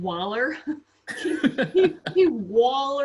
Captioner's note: laughs